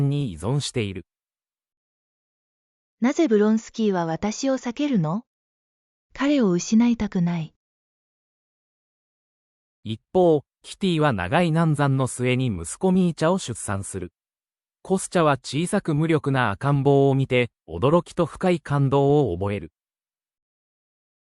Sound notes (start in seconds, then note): 2.3 inner monologue